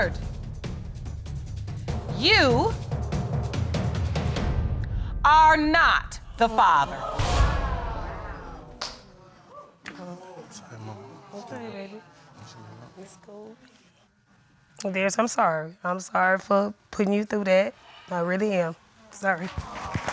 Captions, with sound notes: Mr. Lillard, you... are not the father. [audience exclaiming] -Sorry, Mama. -Okay, baby. It's cool. Darius, I'm sorry. I'm sorry for putting you through that. I really am.